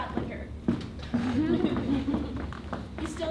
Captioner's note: audience laughs